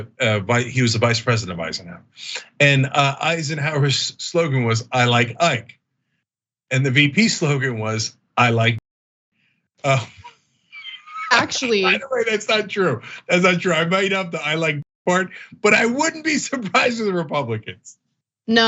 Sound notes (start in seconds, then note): 10.8 laugh